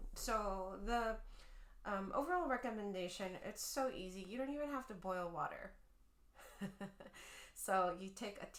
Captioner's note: chuckling